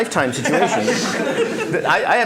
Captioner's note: laughter